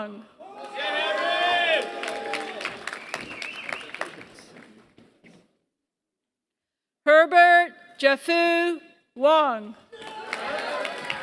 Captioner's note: applause; applause